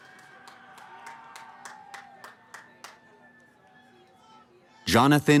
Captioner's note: cheering